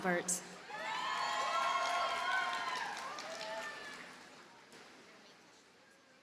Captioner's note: audience cheers and applauds